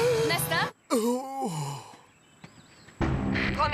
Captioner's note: inhales; exhales